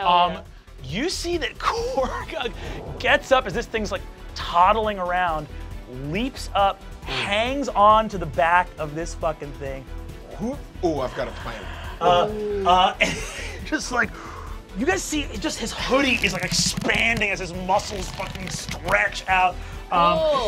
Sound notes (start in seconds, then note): 13.0 chuckles